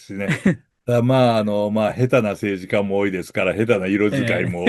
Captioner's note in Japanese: 笑い